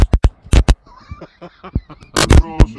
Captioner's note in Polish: śmiech